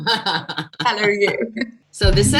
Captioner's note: laugher